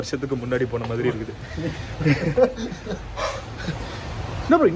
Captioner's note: group laughs